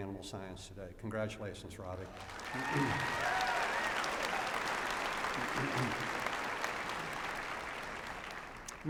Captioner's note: applause